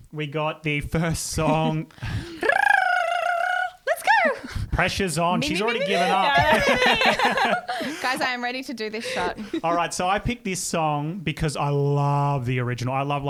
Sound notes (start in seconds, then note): 1.6 rolls tongue